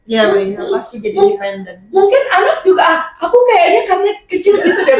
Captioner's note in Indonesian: tertawa